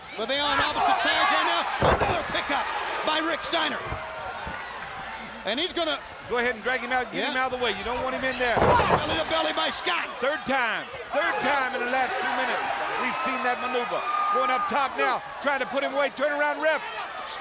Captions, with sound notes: But they are on opposite tags right now. Another pickup by Rick Steiner. (crowd cheering) And he's gonna- Go ahead and drag him out. Yup. Get him outta the way. You don't want him in there. Belly to belly by Scott. Third time. Third time in the last two minutes we've seen that maneuver. Going up top now, trying to put him right. Turn around, ref.